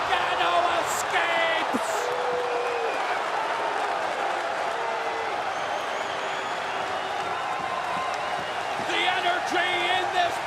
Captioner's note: crowd cheering